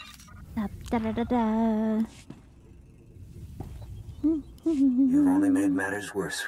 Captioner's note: humming